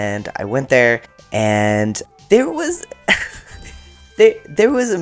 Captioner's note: weak laugh